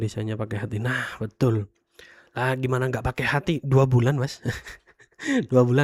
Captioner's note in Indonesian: tertawa